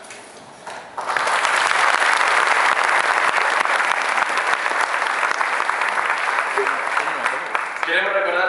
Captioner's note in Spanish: Aplausos